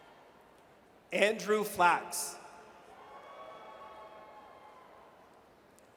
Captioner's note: audience cheers